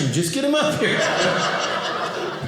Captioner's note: audience laughing